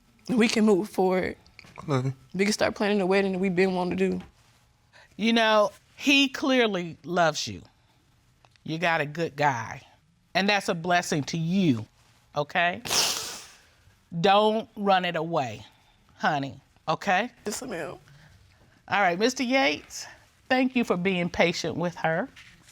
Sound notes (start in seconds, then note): 12.9 sniffles